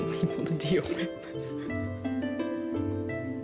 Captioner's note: chuckles